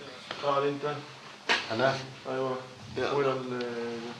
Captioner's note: Arabic spoken audio